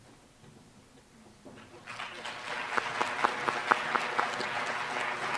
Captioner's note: applause